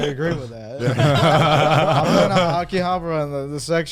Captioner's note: all laugh